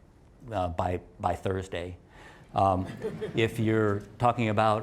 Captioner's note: laugh